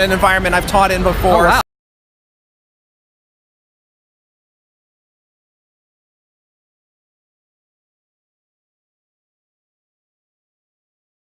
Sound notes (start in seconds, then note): 2.5 sound cuts out suddenly